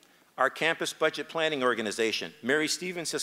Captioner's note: none